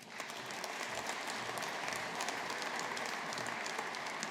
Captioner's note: audience applauding